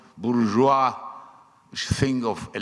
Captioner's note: speaking foreign language